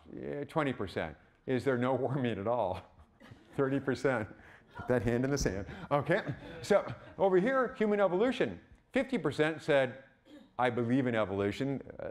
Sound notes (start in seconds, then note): 2.8 chuckling; 3.2 audience laughing